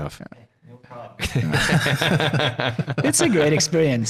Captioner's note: all laughing